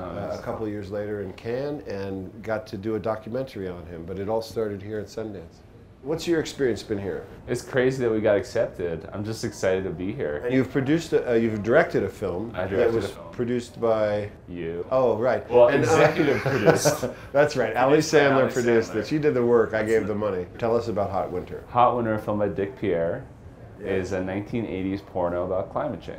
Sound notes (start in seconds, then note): 15.8 laughs